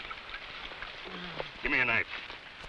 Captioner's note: man groans